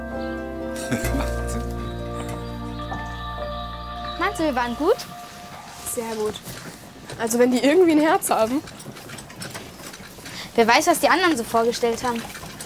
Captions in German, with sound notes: (lachend:) Wahnsinn. Meinst du, wir waren gut? - Sehr gut. Also, wenn die irgendwie ein Herz haben ... Wer weiß, was die anderen so vorgestellt haben.